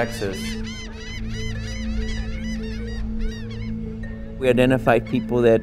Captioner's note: seagulls